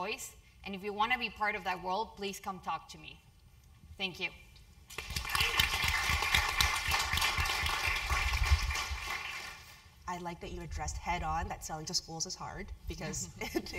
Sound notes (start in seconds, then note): 4.9 applause